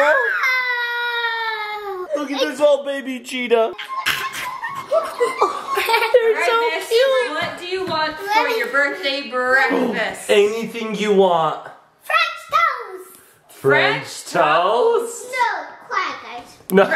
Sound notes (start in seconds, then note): 3.7 laughs; 9.7 gasps